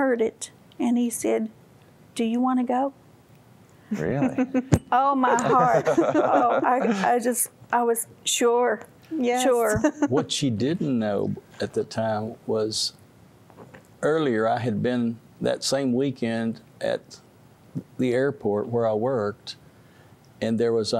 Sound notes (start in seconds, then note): 5.3 giggling; 5.4 laughter